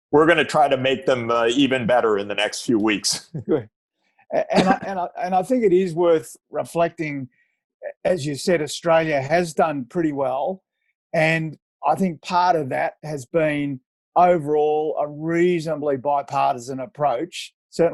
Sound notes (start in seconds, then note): 3.2 chuckle